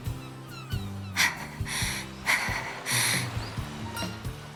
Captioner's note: huff